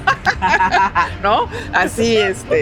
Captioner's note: both laughing